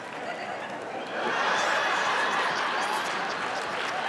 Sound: laughter

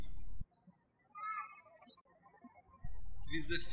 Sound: birds chirping

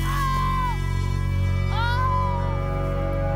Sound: screaming

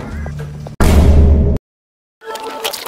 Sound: Sped Up Vine Boom

